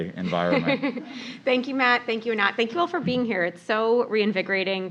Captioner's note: laugh